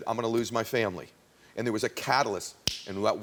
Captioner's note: snaps fingers